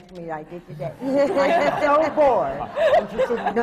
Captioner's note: laughter